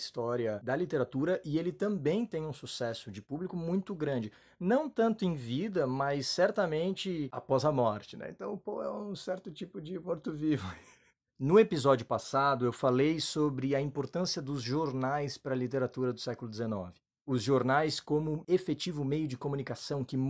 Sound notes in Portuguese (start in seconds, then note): 13.2 Risos